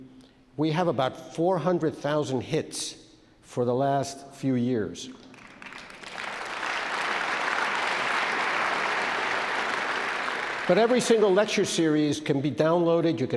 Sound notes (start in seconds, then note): 5.1 audience claps